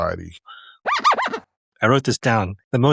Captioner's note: record scratch sound